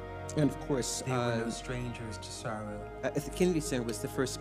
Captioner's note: voiceover